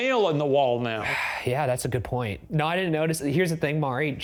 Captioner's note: sighs